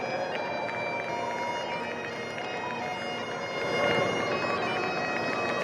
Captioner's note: crowd cheering and applauding